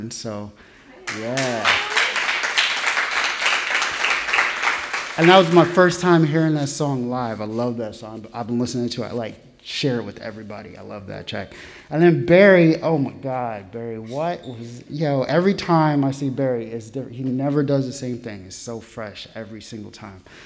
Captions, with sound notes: So, yeah. (audience applauding) And that was my first time hearing that song live. I love that song. I've been listening to it. I like share it with everybody. I love that check. And then Barry. Oh my God, Barry. What was... Every time I see Barry, it's different. He never does the same thing. It's so fresh every single time.